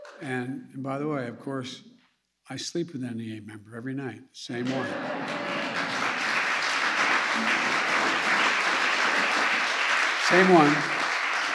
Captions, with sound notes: And -- and, by the way, of course I sleep with an NEA member every night. Same one. (Laughter and applause.) Same one.